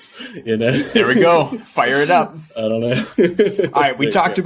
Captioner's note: laughing